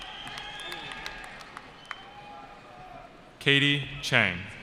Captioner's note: cheering